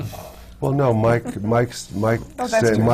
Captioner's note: laughs